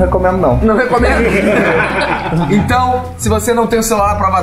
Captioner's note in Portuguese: risadas